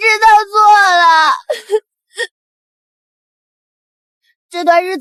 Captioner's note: laughter